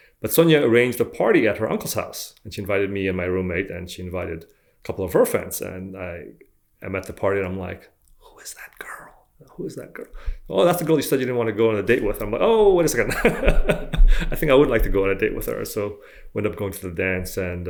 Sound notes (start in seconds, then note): 8.2 whispers; 12.4 laughing